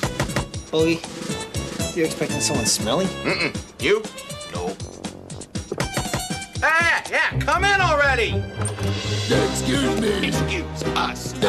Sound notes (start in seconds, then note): 5.5 knock knock